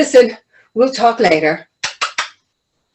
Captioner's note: kissing sound